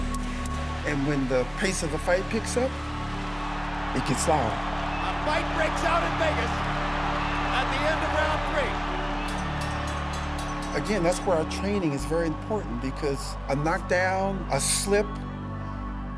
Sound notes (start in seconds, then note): 9.2 bell rings